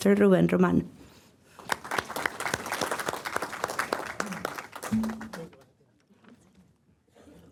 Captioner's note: applause